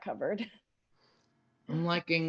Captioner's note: laughs